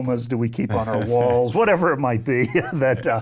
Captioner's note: chuckling